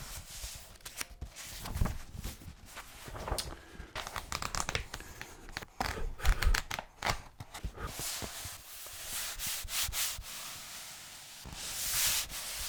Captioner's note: rustling of pages